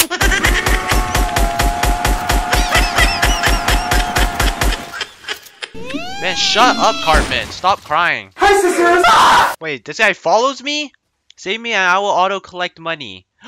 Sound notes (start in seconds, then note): 8.5 screaming